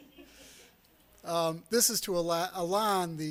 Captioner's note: laughter